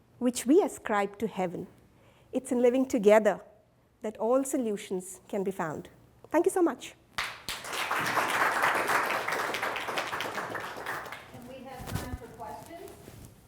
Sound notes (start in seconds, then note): 7.2 students applauding